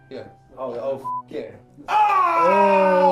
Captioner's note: beep